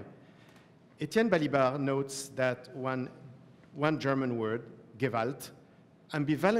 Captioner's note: german